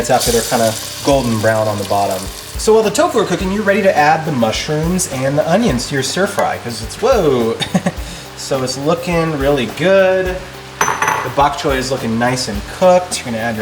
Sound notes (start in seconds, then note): 7.6 laughs